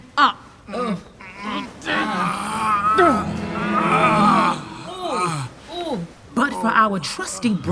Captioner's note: groaning